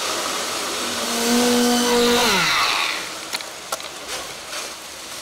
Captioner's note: machine revving